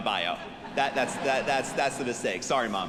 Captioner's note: audience laughing